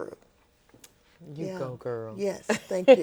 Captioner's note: laughs